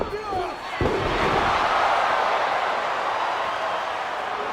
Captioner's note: crowd cheering